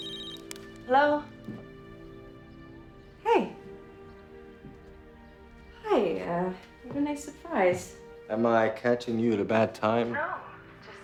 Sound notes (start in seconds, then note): 0.0 phone rings